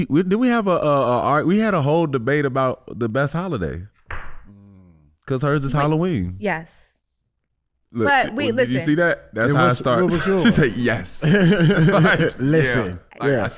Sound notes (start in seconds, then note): 11.2 laughing